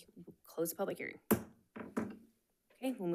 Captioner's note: gavel bangs